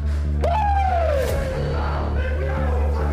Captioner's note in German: Anfeuernde Rufe